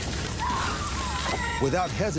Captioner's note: neighbor screaming